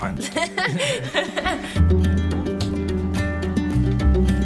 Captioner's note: both laugh